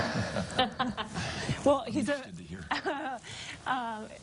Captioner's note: chuckling; chuckling